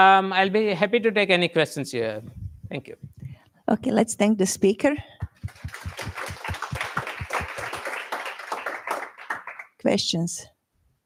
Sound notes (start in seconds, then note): 5.2 applause